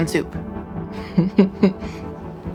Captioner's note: laughs